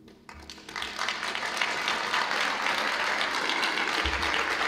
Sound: audience claps

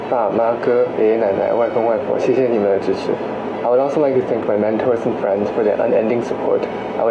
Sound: non-english speech

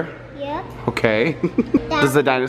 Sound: chuckling

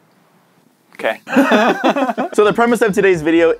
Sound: manly laughter

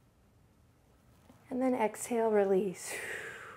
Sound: exhales

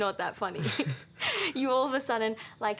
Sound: laughter

